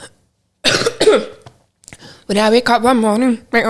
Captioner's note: coughing